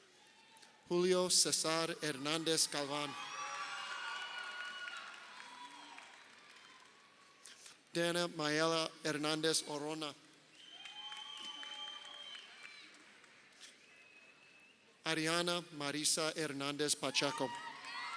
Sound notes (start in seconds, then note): 3.6 crowd cheering; 10.5 crowd cheering; 17.1 crowd cheering